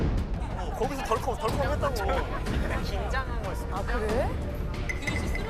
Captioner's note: chatting